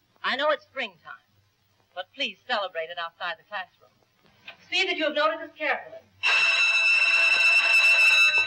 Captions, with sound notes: I know it's springtime, but please celebrate it outside the classroom. See that you have noted this carefully. [bell ringing]